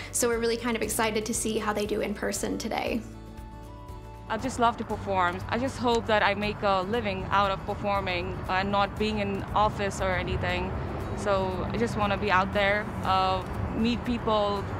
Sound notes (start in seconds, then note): none